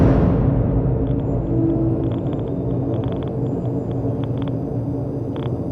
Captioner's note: static clicking